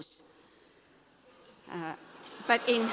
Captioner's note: laughter